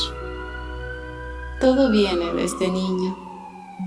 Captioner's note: far away police siren